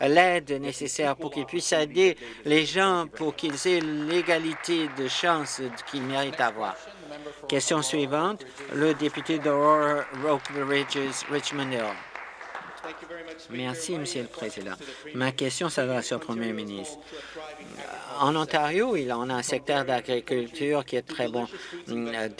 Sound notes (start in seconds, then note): 8.4 some Applause